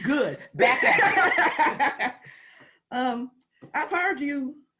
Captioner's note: laughs